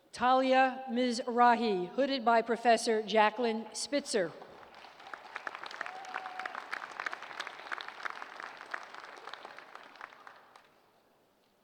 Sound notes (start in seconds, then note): 4.5 applause